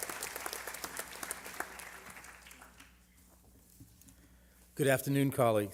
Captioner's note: applause